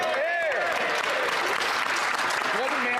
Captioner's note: speaking French